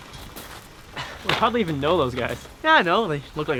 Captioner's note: scoffs